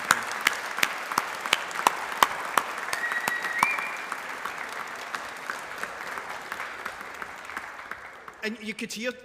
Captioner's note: applause